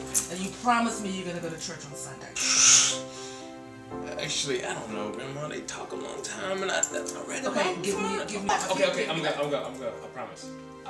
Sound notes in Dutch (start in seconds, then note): 2.4 Drew blaast lucht afwijzend